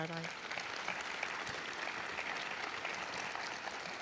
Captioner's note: applause